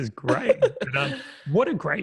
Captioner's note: laughing